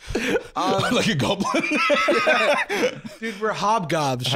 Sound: both laughing; laughing

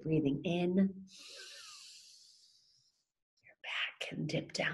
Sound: pulling air in

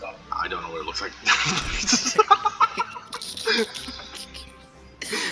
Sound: both burst out laughing; laughing

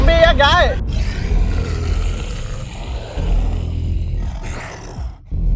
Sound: roars

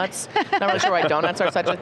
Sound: laugh

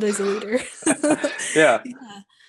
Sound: laughing

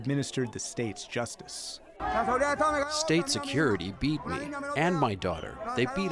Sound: through translator

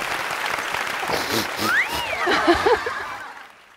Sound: sobbing

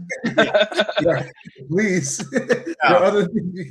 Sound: panel laughing

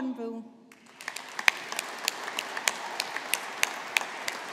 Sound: audience applauding

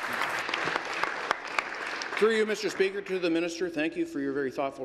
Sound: applause

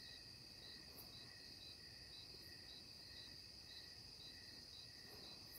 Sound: crickets chirping

